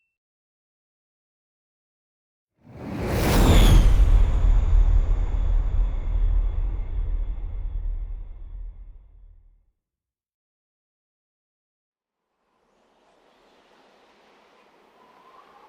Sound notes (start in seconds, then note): 4.4 fire whooshes